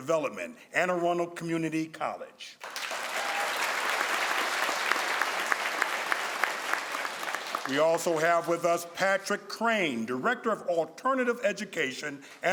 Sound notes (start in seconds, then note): 2.6 crowd applauds